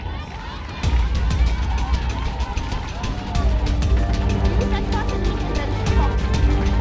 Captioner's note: cheering